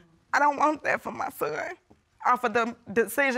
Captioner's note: tearfully